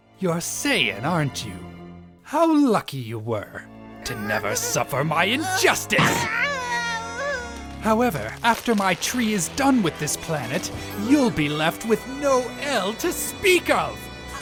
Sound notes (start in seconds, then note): 5.3 Gohan groans in pain